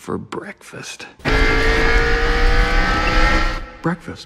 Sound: the sounds of fast driving

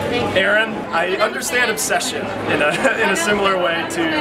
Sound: laughing

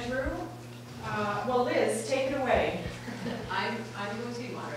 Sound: laughing

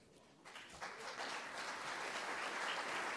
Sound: applause

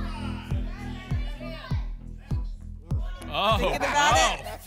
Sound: audience shouting numbers

